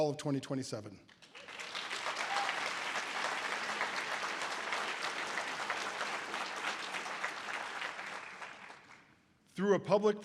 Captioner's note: audience applause